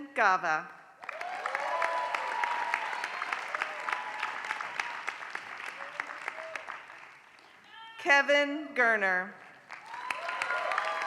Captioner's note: applause; applause